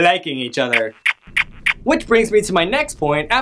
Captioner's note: kissing noise